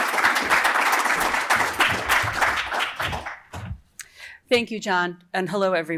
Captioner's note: applause